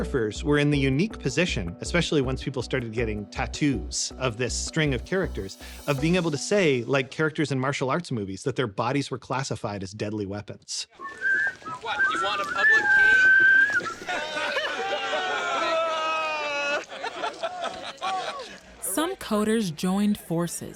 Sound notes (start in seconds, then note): 10.9 whistling; 14.2 crowd laughing, groaning